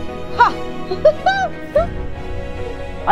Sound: giggles

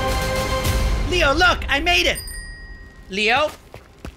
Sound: bell ringing

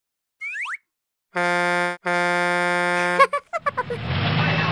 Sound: horn honks

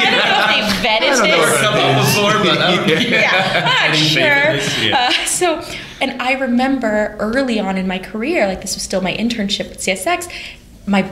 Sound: laughter

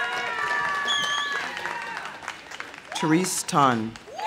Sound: audience applauding; audience cheering

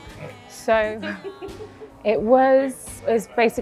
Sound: cheerful laughing

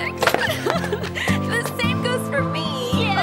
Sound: sobbing

